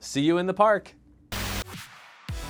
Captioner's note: camera Static